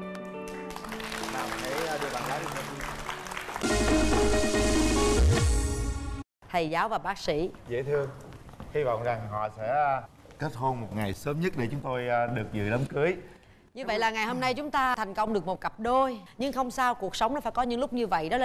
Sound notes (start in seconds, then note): 2.8 applause